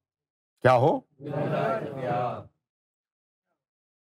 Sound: audience repeats

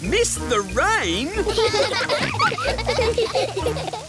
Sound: all laughing

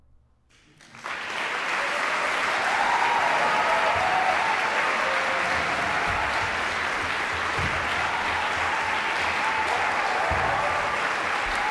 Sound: applause

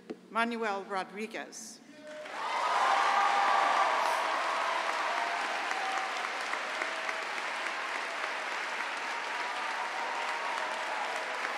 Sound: cheering and applause

